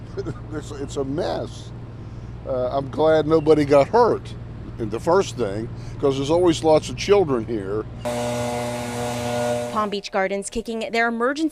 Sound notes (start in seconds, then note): 0.1 laughter